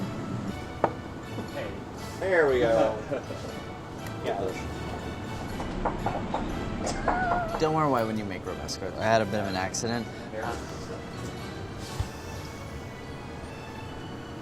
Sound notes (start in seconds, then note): 2.8 laughs; 5.4 pestle banging on surface